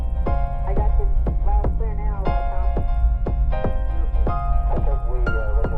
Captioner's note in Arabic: تستمر الموسيقى الهادئة; تستمر الثرثرة الإذاعية غير الواضحة